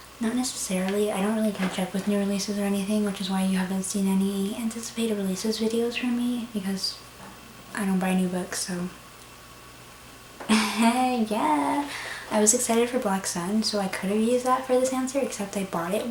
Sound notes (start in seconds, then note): 10.5 uncomfortable laughter